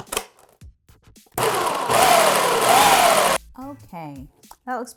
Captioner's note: food processor whirring